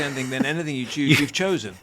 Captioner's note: laughs